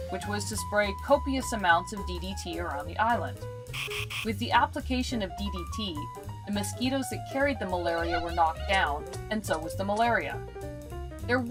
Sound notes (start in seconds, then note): 3.7 spraying